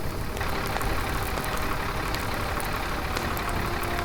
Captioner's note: fire raging; fire engine siren blaring